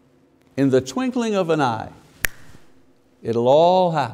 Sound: fingers snapping

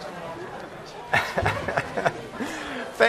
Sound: laughing

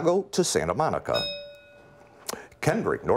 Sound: bell rings

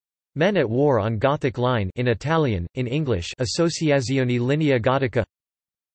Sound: in Italian; in Italian

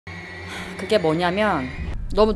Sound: sighs

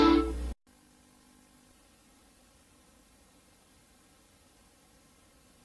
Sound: VHS static

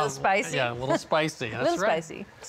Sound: laughs

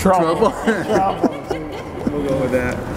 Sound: laughs

